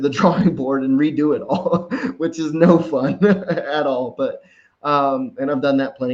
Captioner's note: laughs